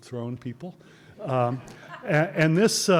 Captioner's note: audience laughter